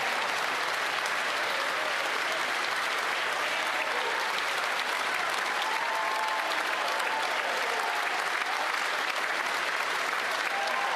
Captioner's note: applause